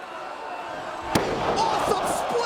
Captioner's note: Mike Awesome thuds